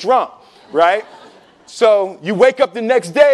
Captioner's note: laughing